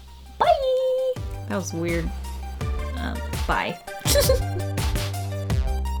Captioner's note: giggles